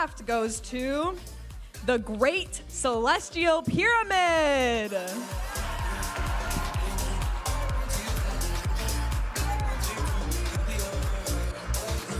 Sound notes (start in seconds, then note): 5.1 audience applauding and cheering